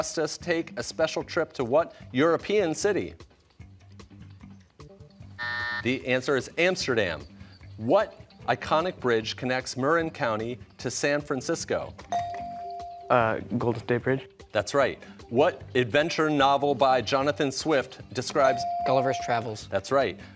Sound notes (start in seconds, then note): 5.4 buzzer